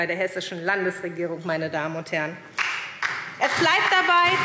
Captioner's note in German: Beifall SPD